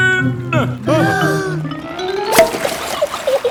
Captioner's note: breathing in